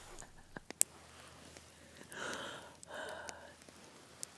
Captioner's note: laughs